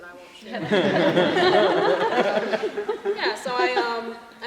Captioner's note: laughter